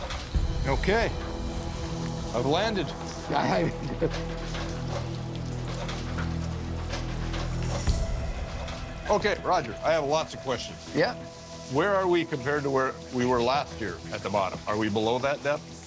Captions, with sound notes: Okay. I've landed. [laughs] [dramatic music plays] Okay. Roger, I have lots of questions. -Yep. -Where are we compared to where we were last year at the bottom? -Are we below that depth? -That's right.